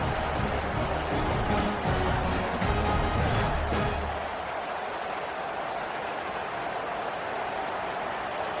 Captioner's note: crowd cheering